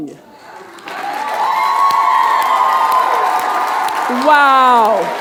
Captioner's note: audience cheering and clapping